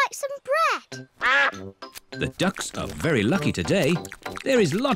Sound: quacks

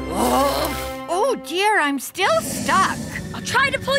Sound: grunting

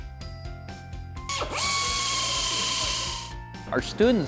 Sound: whirring

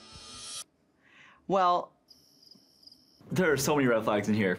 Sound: crickets chirping

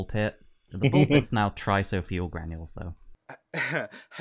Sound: laughter

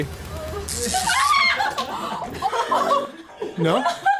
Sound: electricity crackles; screams

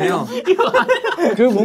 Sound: haha

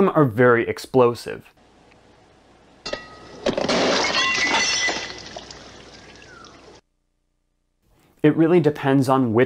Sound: glass Shattering

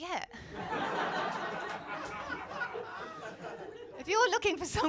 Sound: laughter

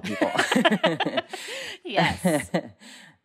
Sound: laughter

